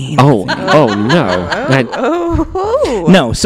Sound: laughs

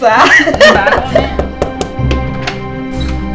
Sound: chuckles; knocking

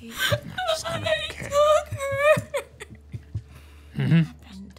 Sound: crying

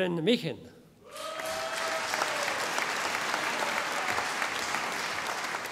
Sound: audience applauding

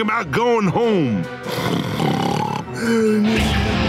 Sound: snoring

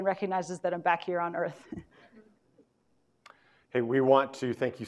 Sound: chuckles

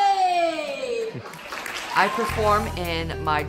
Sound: applauding

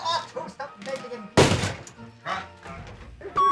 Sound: leg thuds loudly

